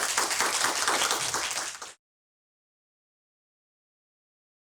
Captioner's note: audience clapping